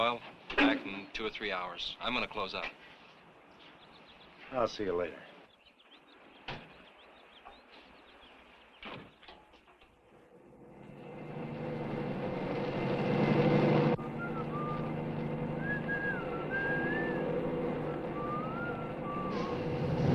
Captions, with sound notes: He'll be back in two or three hours. I'm gonna close up. - I'll see you later. (Compton whistling softly)